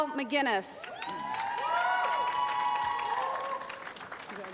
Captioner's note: applause